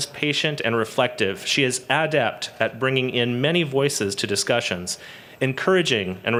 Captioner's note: none